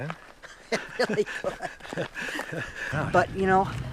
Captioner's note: laughs